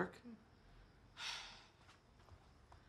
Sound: Julie sighs

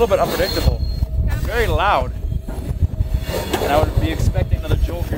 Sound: metal screeching

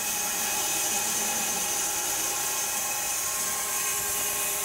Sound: saw whirring

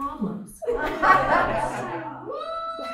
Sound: laughter

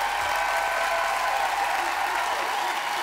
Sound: audience cheering

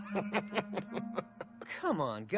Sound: chuckling

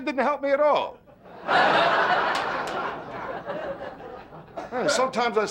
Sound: audience laughing

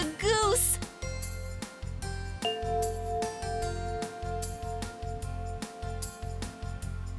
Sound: bell chimes

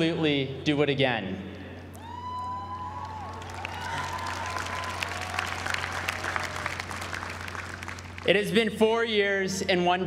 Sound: applause

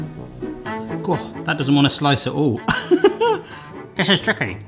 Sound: bright orchestral music; laughs

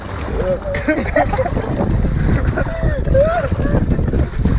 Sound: laughing

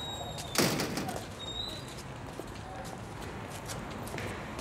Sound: door squeaks; door bangs

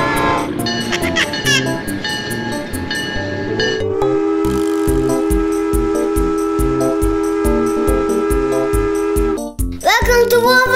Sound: train sounds and signal

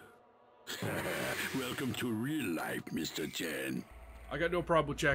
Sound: laughs

